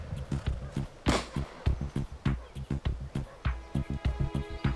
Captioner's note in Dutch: geweer vuurt; dramatische muziek